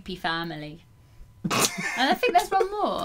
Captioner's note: still laughing